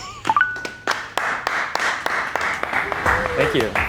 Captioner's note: people clapping